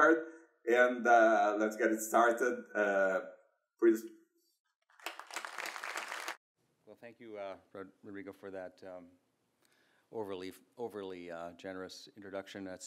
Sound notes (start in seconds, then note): 4.9 audience clapping; 4.9 claps